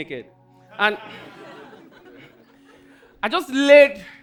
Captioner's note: audience laughing